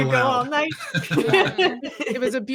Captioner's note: everyone giggles